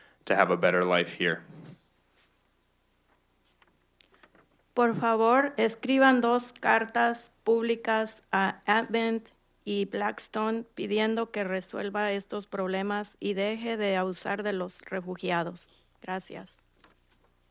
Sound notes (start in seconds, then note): 4.6 speaking in Spanish